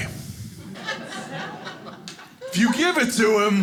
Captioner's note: audience laughing